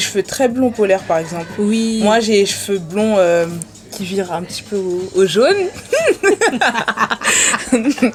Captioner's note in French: rires